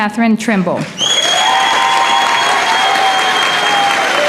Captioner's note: applause